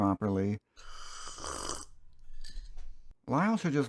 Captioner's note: slurping sound